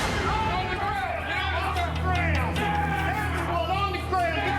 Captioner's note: officers yelling